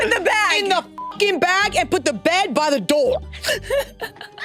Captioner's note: beep